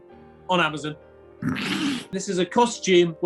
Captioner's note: sniggering